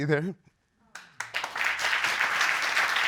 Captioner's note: audience applauding